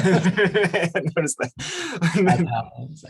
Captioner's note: laughs